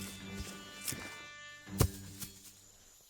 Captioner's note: thuds